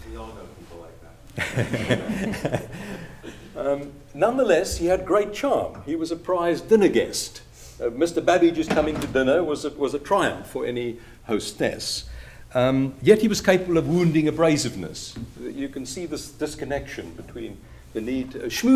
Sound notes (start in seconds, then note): 4.4 laughter